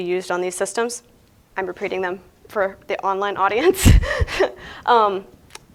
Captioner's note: laughs